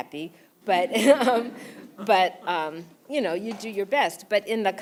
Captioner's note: laugh